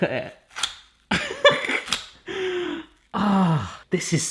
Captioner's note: laughs